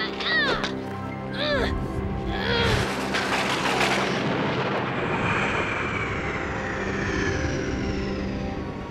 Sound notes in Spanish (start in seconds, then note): 0.6 gimiendo; 2.8 trueno estrellándose